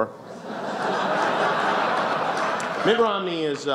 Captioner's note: laughter